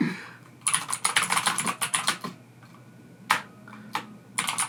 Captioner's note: keyboard clacks